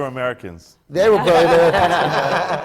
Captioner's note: laughter